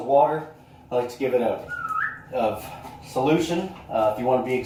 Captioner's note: whistle